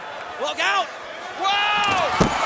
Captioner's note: crowd cheering